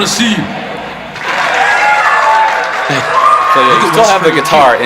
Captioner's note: crowd applause